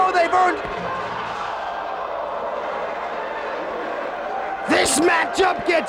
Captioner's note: spectators exclaiming